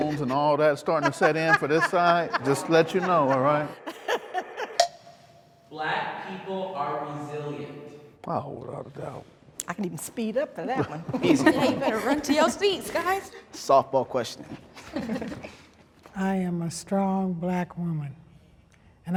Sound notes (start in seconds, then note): 0.8 woman laughs; 11.1 laughs